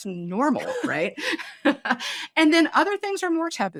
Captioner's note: laughing